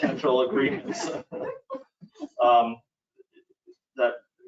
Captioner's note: committee members laughing